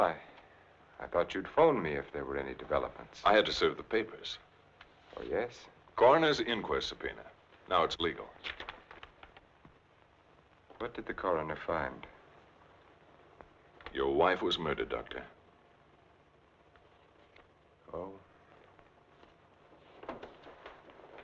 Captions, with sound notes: I thought you'd phone me if there were any developments. - I had to serve the papers. - Oh, yes? - Coroner's Inquest Subpoena, now it's legal. (paper rustling) - What did the coroner find? - Your wife was murdered, Doctor. - Oh? (footsteps thumping)